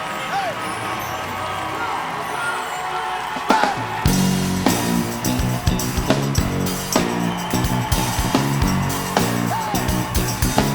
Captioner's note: cheering; cheering